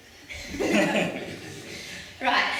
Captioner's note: laughter